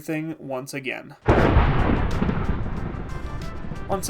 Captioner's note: thunder